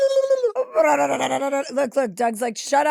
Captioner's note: Chelsea blats